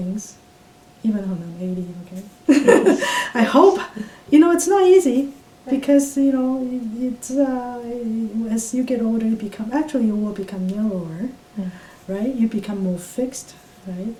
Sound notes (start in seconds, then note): 2.5 laughs